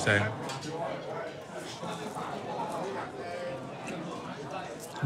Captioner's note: speaks in foreign language; people chattering